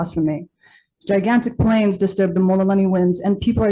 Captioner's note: speaks Hawaiian